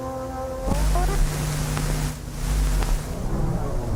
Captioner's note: static hissing